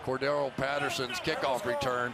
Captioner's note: crowd clamoring